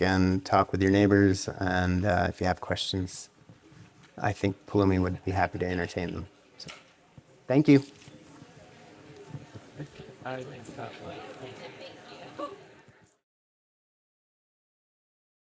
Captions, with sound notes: and talk with your neighbors, and if you have questions, I think Poulomi would be happy to entertain them. So thank you. (audience chattering)